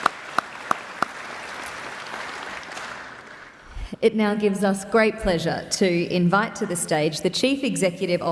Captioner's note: applause